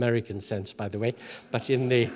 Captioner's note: laugh